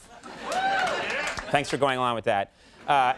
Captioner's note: audience cheering